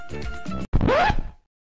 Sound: record scratches

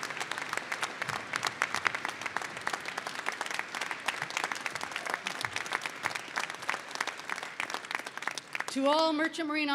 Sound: applause

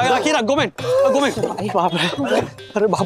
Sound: speaks Japanese

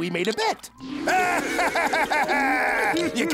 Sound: laughing

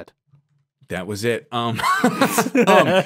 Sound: laughs

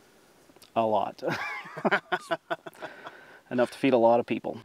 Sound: laughing

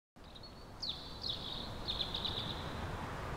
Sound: birds chirping

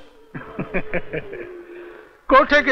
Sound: laughs

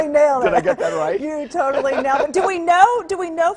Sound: laugh

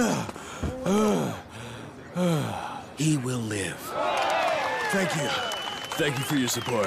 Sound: sighs

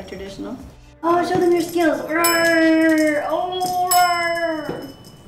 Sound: grunting

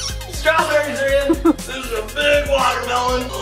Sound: laughing

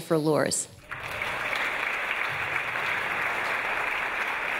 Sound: audience applause

